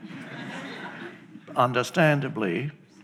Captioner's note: audience chuckling